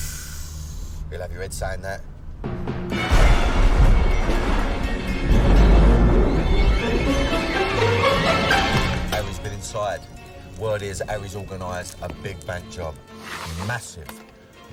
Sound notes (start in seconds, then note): 0.0 sighs; 3.0 thunder rumbling